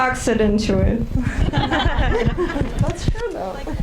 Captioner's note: audience laughing